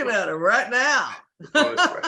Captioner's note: laughs